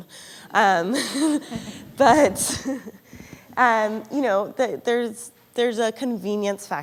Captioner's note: laughter